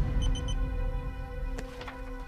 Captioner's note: beeps of activation